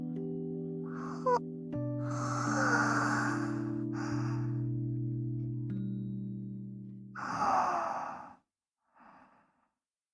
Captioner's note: yawn